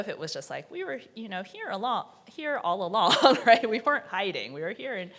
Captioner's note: chuckles